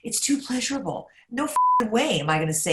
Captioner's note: beep